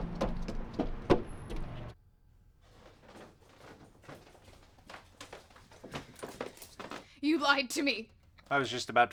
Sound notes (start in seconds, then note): 2.9 climbing staircase